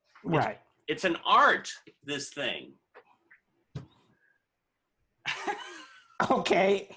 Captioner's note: laughter